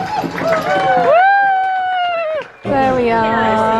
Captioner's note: all cheer